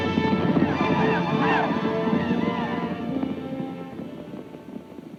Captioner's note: Apaches shout